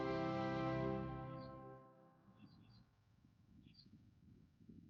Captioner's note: birds chirping